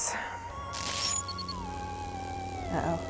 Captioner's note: electricity crackling